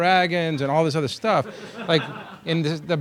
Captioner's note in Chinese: 课堂大笑